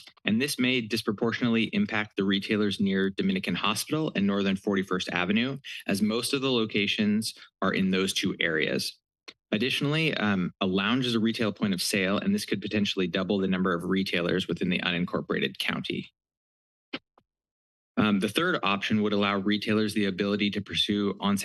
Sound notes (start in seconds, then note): 16.2 pause